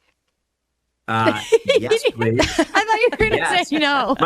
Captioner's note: hosts laugh